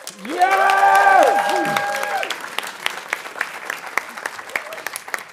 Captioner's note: audience cheering and applauding